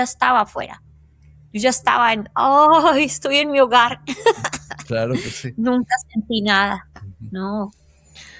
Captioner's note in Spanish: risas